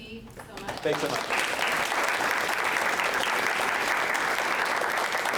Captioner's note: applause